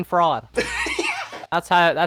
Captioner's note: laughter